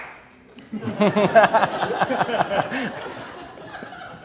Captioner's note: laughing